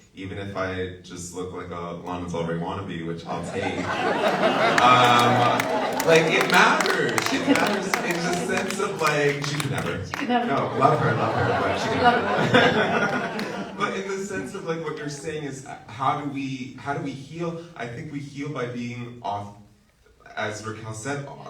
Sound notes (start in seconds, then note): 4.6 audience laughs